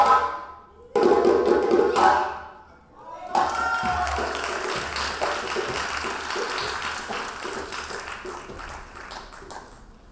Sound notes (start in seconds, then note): 3.4 audience applauding